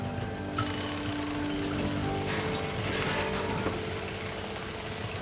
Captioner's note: somber pensive music; engine rumbling